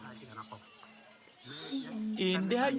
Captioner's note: goats bleating